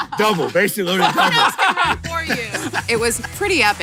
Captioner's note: laughing